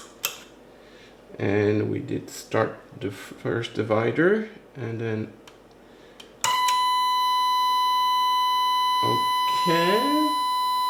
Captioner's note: 1 kHz tone